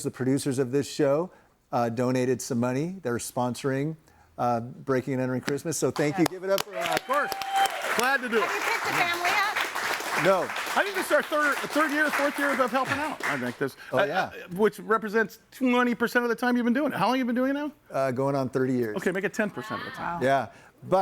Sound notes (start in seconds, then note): 7.8 audience applauds and cheers